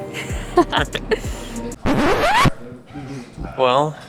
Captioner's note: both laugh